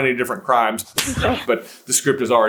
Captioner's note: slap